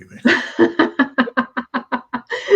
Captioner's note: laughing